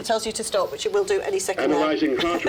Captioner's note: laughing